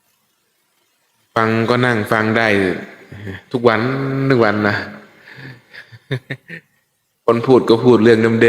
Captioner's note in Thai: เสียงหัวเราะ